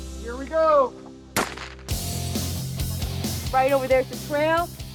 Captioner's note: pistol fires